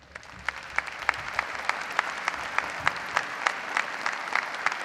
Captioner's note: audience applauding